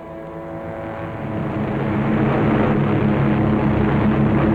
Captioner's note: sound of aircraft engines